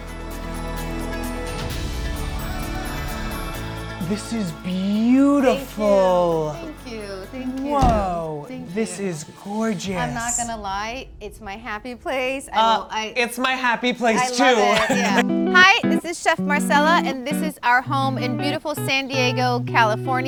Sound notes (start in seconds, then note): 0.2 uplifting music; 7.5 door thuds